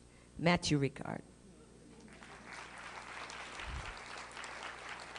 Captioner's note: applause